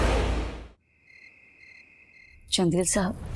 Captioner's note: crickets chirping